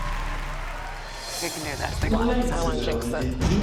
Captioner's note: audience cheering